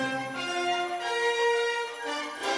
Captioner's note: audience applauding